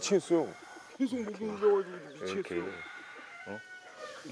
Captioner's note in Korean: 속닥